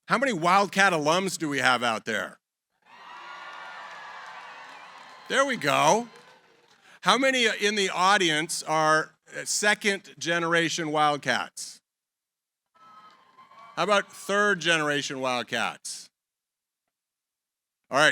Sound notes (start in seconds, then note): 2.8 cheering; 12.8 cheering